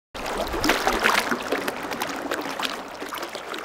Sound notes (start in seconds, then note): 0.2 water running